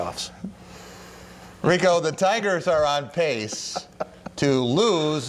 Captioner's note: laughter